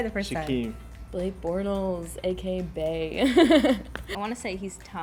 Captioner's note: laughs